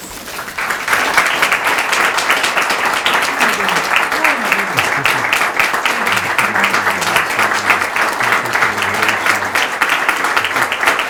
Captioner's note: applause